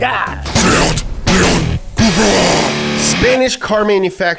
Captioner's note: demonic Voice